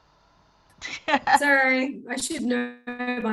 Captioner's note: laughing